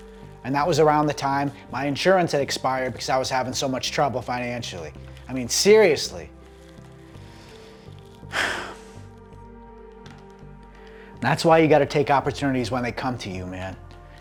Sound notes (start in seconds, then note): 8.2 sighs